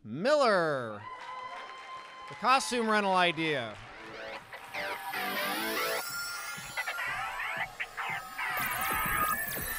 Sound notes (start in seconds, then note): 0.8 applause and cheers; 3.2 energetic music